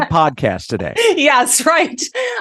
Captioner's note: laughs